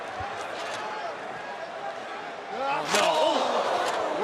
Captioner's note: crowd chatter